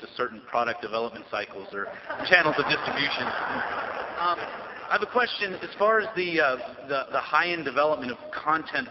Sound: laughter

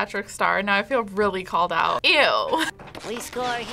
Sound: laughs

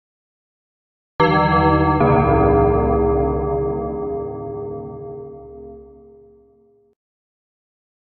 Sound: sound of dark bell

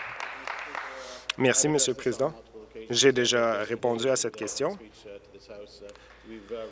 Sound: applause

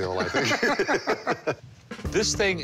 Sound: both chuckle

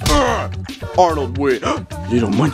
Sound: slam!; gasps

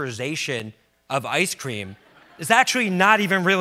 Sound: audience laughs

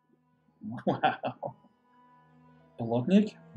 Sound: laughing

